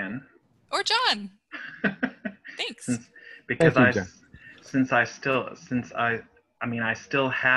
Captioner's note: laughter